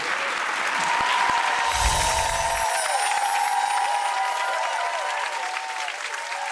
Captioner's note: audience cheering; twinkling